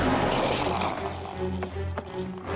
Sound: growling

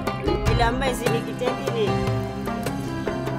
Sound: speaking in foreign language; traditional music continues

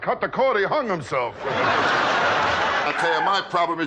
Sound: audience laughing

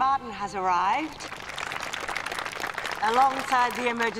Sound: applause

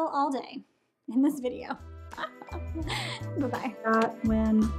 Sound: laughs

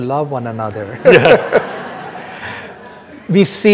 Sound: everyone laughing

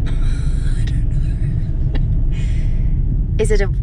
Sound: laughing

